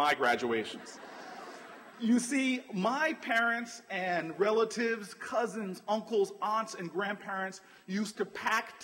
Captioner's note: laughter